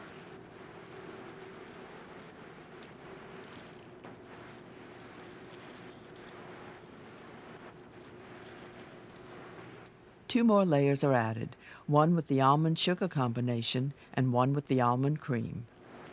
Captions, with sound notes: - [Voiceover] Two more layers are added. One with the almond sugar combination, and one with the almond cream.